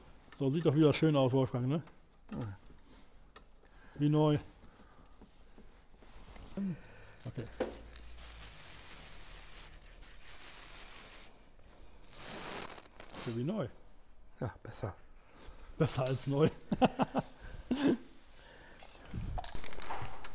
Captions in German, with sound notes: So sieht doch wieder schön aus, Wolfgang, ne? Wie neu! (Sprüh Geräusche!) Ist ja wie neu! Ja, besser. Besser als neu (Ha Ha)